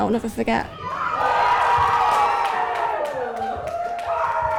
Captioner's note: cheering